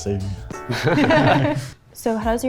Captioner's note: all laughing